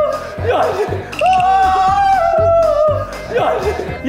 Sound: cry of pain

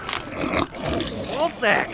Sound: flesh squelching; zombie grunts

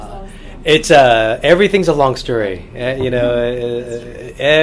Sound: laughs

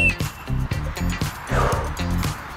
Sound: exhale

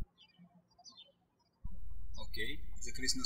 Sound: birds chirping

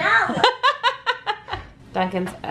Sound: laughing

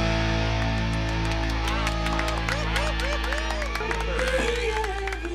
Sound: crowd cheering and clapping

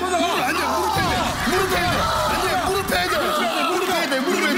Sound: screams of agony

